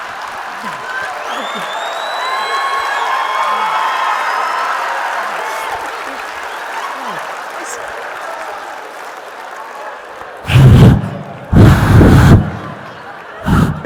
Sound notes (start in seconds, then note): 0.0 audience laughing; 0.3 audience cheering and clapping; 10.4 blowing